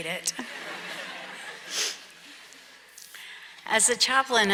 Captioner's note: audience laughs